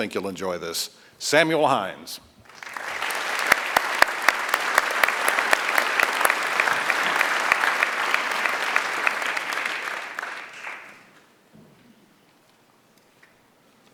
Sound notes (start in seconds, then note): 7.4 applause